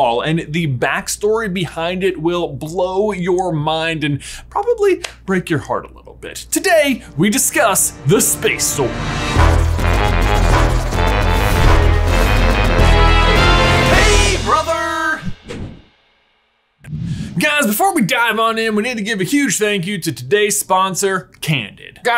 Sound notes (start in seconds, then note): 9.5 upbeat instrumental music; 15.2 logo whooshing